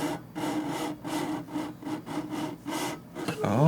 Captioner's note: inorganic chafing noises